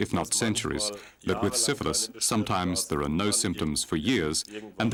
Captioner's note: speaking in foreign language